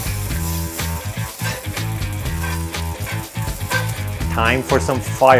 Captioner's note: meat sizzling